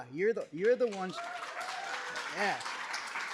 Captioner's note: applause, cheers